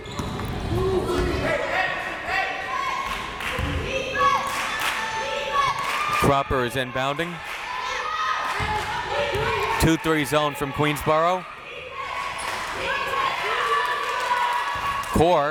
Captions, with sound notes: (crowd members shouting) (crowd members chanting) Cropper is inbounding. (crowd members shouting) Two-three zone from Queensborough. (crowd members chanting)